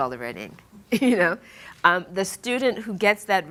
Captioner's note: laughing